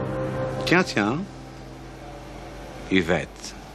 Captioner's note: speaks in French